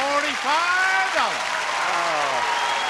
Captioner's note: audience cheering and applauding